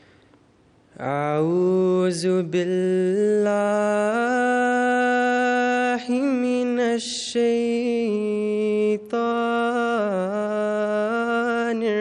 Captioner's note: recitation of the Holy Qur'an